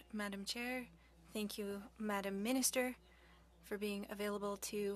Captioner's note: speaking French